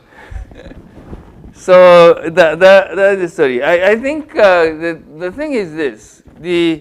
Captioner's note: laugh